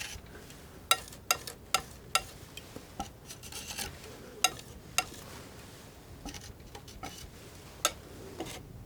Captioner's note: tapping